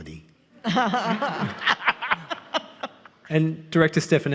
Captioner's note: all laughing